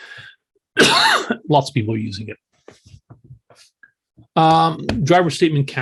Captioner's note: cough